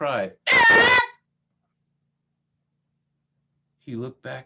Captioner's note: sreaming like a parrot